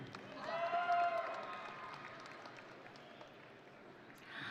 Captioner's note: audience cheering